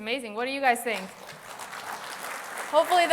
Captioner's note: applause